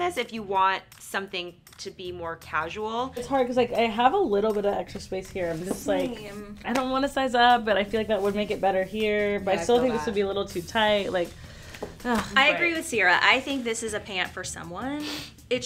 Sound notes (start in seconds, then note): 11.8 sighs